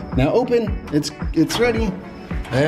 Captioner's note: gasps